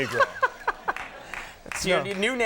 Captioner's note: Conan laughing